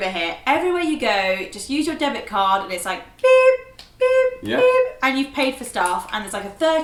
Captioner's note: beep beep beep